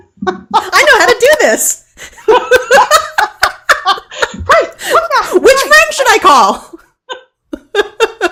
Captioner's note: laughing